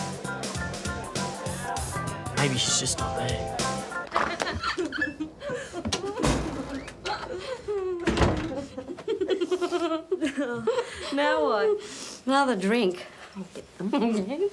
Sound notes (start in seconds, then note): 4.1 laugh excitedly